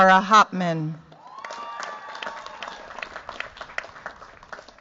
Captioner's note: cheers, applause